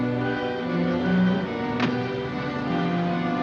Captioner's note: suspenseful music; car door closes